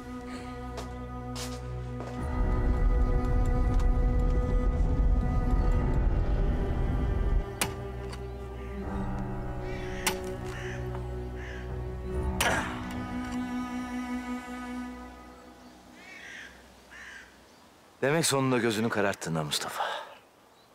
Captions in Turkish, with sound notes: [Kuş sesleri] Demek sonunda gözünü kararttın ha Mustafa.